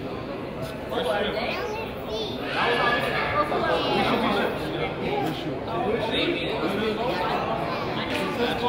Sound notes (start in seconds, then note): 0.0 crowd chatters